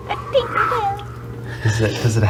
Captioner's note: laughs; whooshes